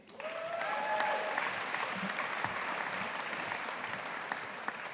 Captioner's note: audience applauding